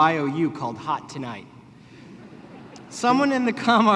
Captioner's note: laughter